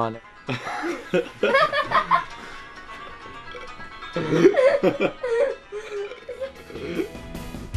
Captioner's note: laughing